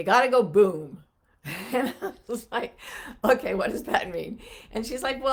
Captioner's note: laughs